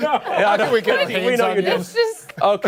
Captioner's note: laughter